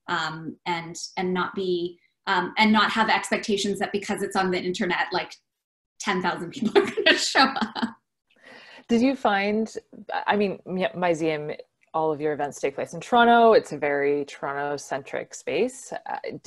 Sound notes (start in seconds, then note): 8.1 laughs